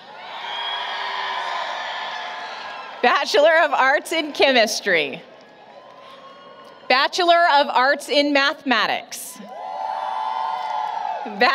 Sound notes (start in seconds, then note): 0.1 applause, Cheering; 5.7 cheering; 9.4 applause, Cheering